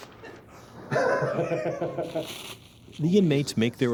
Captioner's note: chuckling